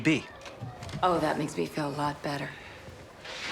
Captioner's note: none